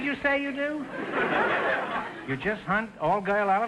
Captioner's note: audience laughter